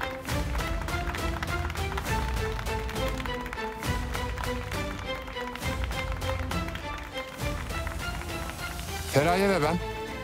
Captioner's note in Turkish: Alkış sesi